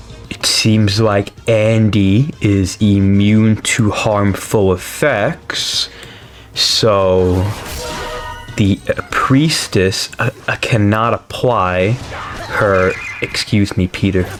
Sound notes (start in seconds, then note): 5.9 inhales Oxygen